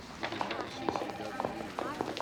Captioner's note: telephone ringing